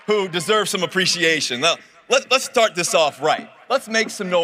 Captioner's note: cheering and applause